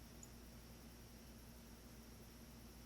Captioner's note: crickets